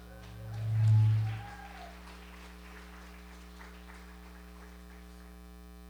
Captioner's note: audience cheering and applauding